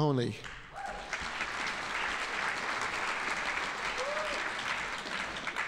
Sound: audience applauding

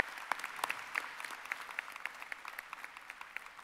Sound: applause

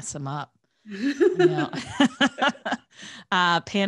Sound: laughter

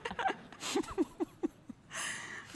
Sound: laughter

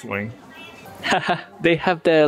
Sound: laugh

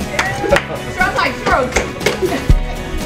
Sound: clapping

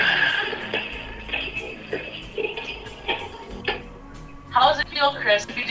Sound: chopping sounds

